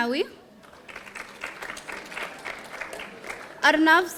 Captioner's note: audience applauding